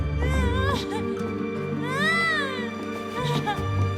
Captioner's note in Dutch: Catherine schreeuwt